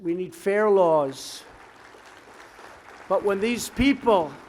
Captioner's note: applause